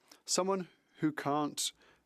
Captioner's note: speaking French